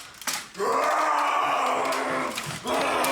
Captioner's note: snarling